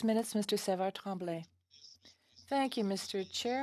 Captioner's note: speaking French